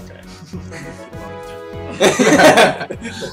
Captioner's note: laughter